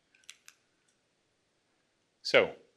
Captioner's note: clicks